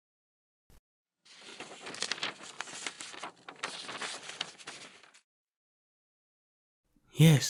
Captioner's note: sound of sheets